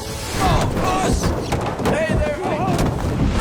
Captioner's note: shouting